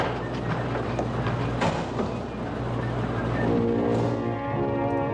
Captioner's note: door Closes